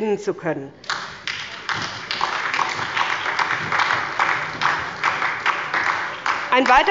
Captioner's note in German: Beifall bei der SPD